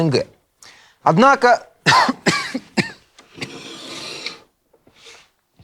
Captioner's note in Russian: кашляет